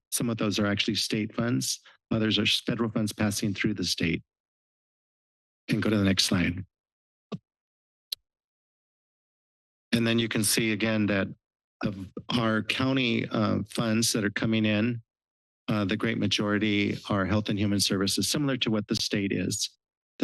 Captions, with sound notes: Some of those are actually state funds others are federal funds passing through the state. You can go to the next slide. [microphone noise] And then you can see again that our county funds that are coming in the great majority are health and human services similar to what the state is